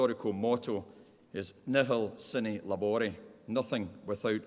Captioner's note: speaking in Latin